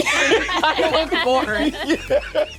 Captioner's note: Lou laughing